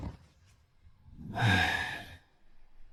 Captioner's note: sighs heavily